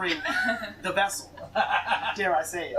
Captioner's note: laughter